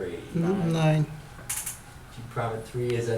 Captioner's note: voiceover